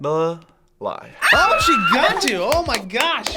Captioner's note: screams